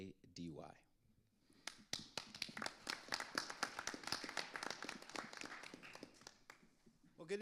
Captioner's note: audience and panelists applauding